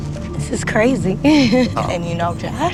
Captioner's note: laughs